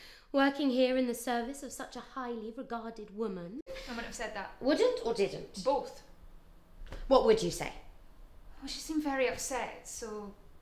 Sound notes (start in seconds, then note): none